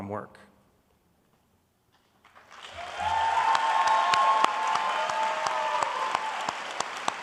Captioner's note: audience applauding